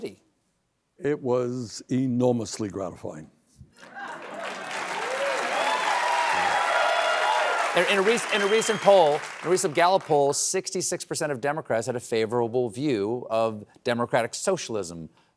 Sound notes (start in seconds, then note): 3.8 applause